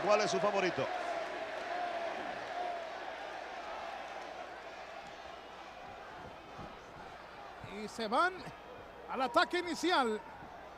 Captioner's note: applause